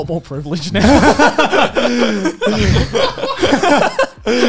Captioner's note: laughing